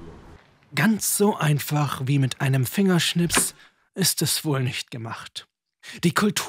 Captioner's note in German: Schnipps